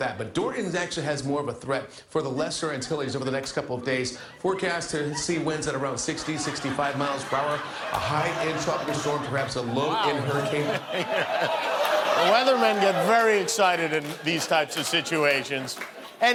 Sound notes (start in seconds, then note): 10.9 laughter